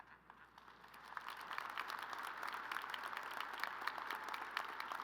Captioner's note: crowd applauding